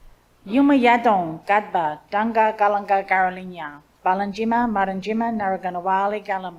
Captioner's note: speaks in Ngunnawal language